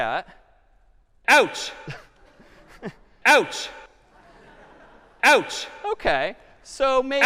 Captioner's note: ouch sound playing repeatedly